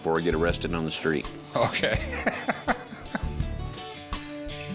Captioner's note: laughs